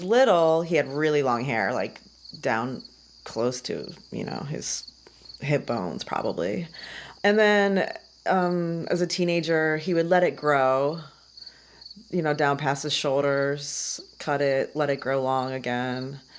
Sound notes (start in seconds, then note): none